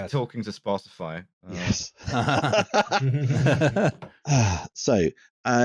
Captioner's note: delayed but effusive laughter